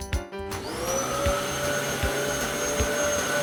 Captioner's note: vacumm